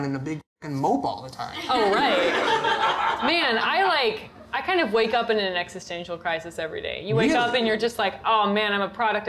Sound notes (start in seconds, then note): 1.9 audience laughter